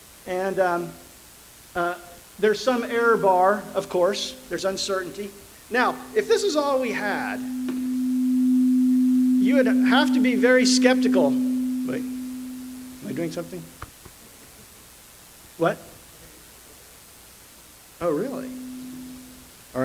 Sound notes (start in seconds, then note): 10.9 microphone feedback